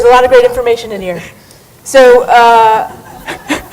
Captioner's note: chuckling